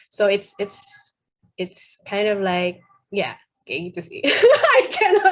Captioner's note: laughs